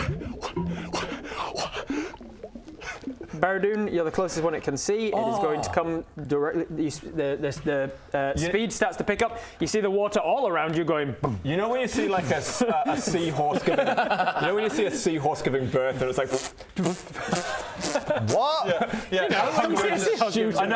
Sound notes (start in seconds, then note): 16.1 pfft pfft pfft; 16.2 pffpt